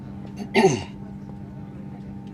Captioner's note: clears throat